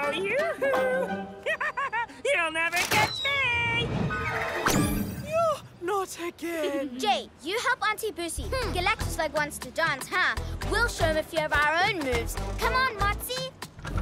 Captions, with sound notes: Oh, yoo-hoo! (Laughs) You'll never catch me! - Yoh! Not again! - (Giggles) Jay, you help Aunty Busi! Galactoslug wants to dance, huh? We'll show him our own moves. Come on, Motsie!